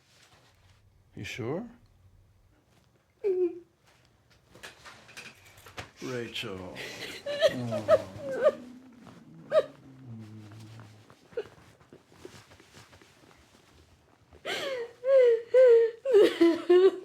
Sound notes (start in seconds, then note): 6.7 sobs